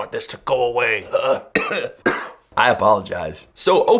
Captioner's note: coughing